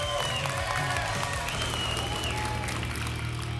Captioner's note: applause and cheering cont